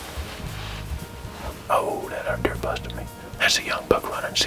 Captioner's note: whispering